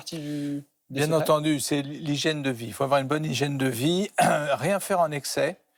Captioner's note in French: raclement de gorge